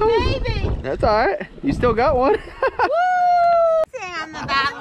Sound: laughs

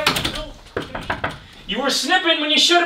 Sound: knock knock knock

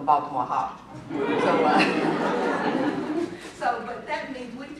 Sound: laughter

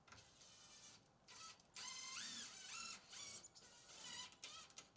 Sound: drill whirring

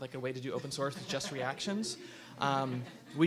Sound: audience laughs

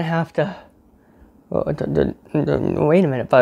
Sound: stutters

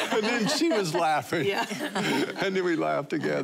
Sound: laughing

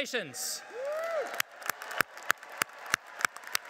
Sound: applauding

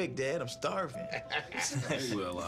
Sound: laughter

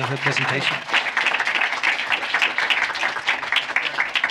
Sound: applause

